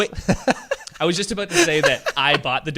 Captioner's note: laughing